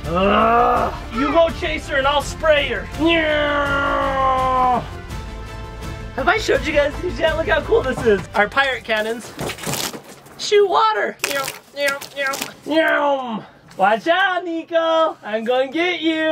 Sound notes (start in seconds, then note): 3.0 imitates airplane sounds; 10.4 sounds of water splashing